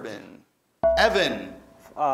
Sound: ding

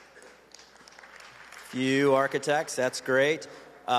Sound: applause

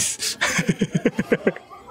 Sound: laughs

